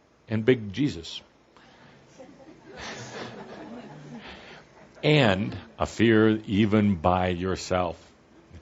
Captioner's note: some laughter